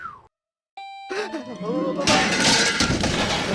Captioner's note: exhales; bell dings; gasps